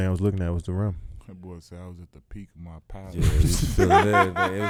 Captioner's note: laughs